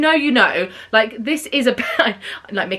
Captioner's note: chuckles